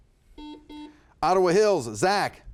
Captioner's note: buzzer beeping